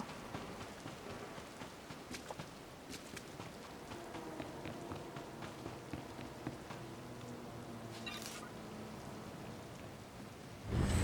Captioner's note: footsteps